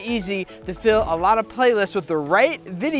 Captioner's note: air whooshing